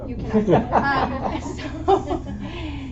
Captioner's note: laughter